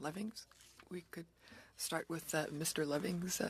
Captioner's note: speaking french